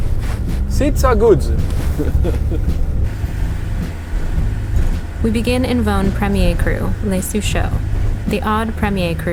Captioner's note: all chuckle